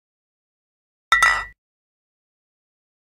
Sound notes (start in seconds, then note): 1.1 sound of bottles clinking